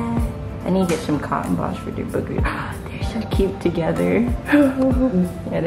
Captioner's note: gasp